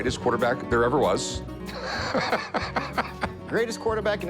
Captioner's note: laughs